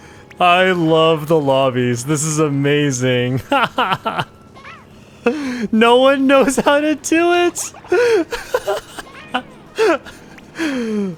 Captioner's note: laughs